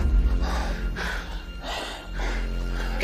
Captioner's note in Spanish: Parcero jadea